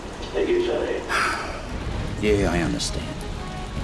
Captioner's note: sigh